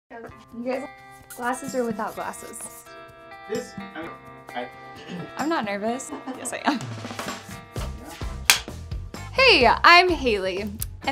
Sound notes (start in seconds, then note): 8.4 clapperboard claps